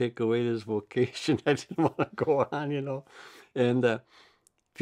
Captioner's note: laughs